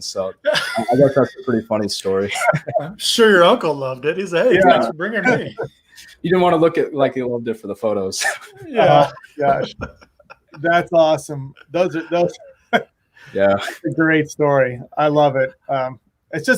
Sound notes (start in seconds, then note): 9.9 laughing